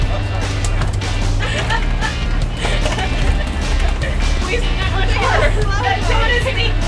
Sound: laughter

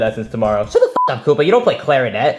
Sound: beep

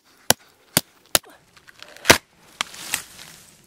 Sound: chopping stops, tree falls

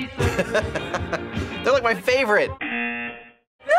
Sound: buzzer

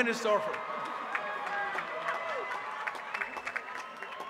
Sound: applause

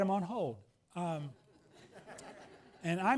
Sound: laughs

